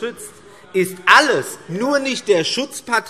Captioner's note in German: Zurufe AfD